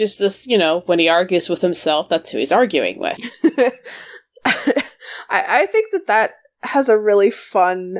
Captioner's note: laughs